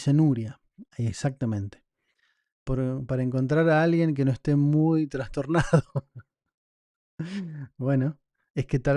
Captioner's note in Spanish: risas